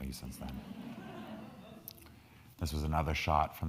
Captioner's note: crowd laughing